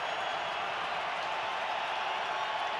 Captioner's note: crowd cheering